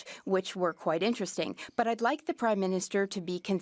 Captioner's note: speaking French